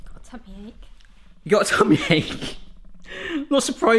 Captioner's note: laughs